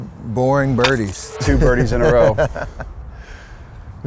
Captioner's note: laughs